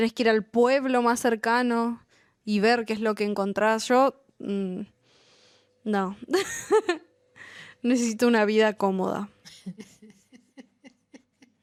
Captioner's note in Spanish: risas